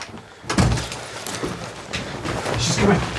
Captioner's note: door slams